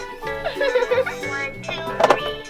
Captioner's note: giggles